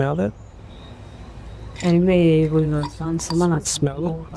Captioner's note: speaking spanish